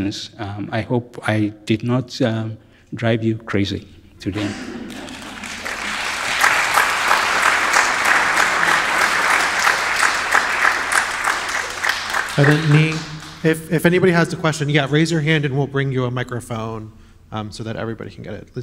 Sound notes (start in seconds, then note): 4.9 audience members clap